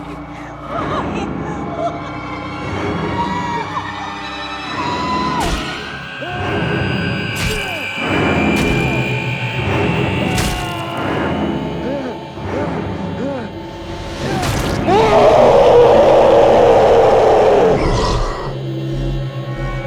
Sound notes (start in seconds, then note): 3.0 Sinclair screams; 3.2 The Matriarch screaming; 5.2 The Matriarch screams; 5.4 axe thuds; 6.1 Sinclair screams; 7.1 axe thudding; 7.1 blood gushing; 11.8 Sinclair gasping; 11.8 dramatic music; 14.2 The Patriarch shrieking; 14.8 eerie music